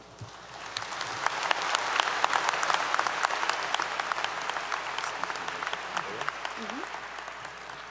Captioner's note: applause 👏 👏